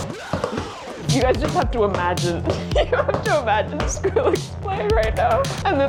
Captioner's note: laughing